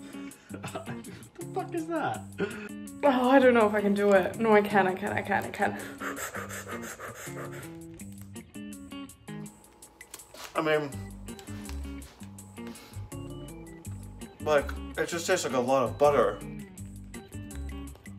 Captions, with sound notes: - (chuckles) The fuck is that? - Oh, I don't know if I can do it. No, I can. I can. I can. (inhales and exhales loudly) - I mean, it just tastes like a lot of butter.